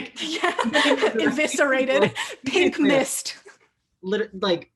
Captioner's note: both laughing